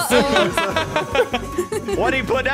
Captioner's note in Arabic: يضحكان